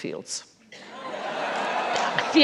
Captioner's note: laughter